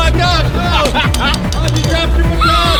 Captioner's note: cynical laughing